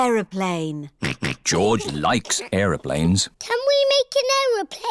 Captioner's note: snorts